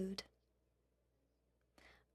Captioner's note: speaking FRENCH